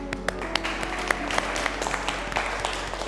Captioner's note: applause